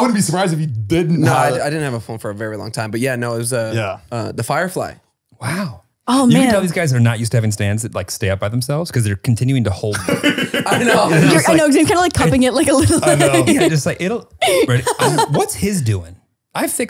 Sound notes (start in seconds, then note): 9.9 laughs